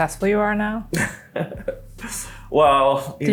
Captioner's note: laughs